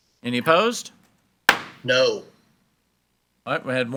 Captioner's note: gavel bangs